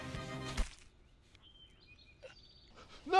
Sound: stab sound

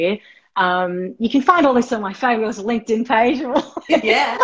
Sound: laughing

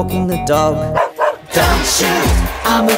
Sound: barking

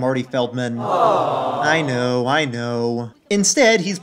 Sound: disappointed awws

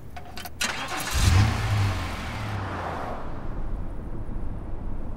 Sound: car engine starts

